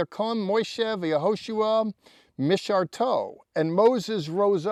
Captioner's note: speaking in Hebrew